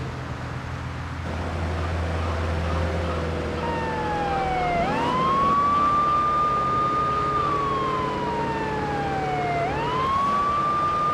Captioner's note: siren wailing